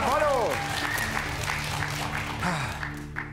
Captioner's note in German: Applaus